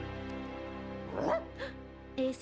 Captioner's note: bark